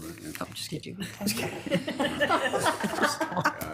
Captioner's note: laughing